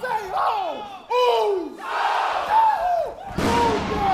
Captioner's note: crowd cheering